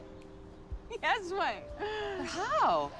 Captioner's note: laughs